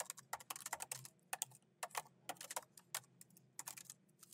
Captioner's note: keyboard clacking